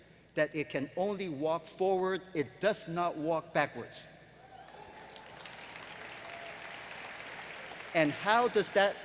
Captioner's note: applause